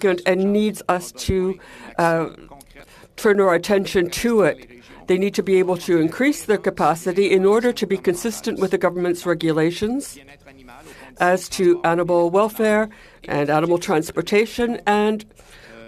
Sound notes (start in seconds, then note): 7.7 speaking French